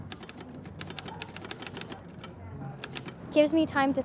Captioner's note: keying typewriter